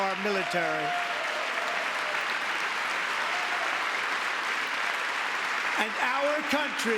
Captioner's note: applause; cheering